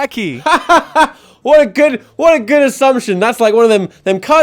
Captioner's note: laughing